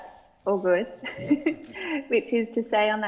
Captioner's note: chuckles